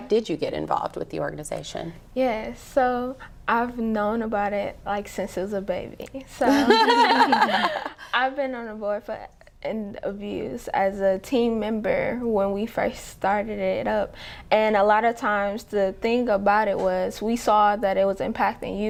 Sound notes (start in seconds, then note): 6.4 laughter